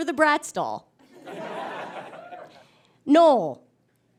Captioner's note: audience laughs